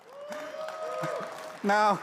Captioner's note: audience whoops